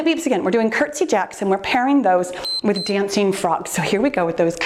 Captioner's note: timer beeps